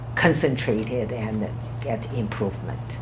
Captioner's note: none